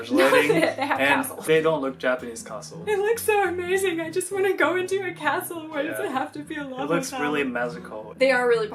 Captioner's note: crying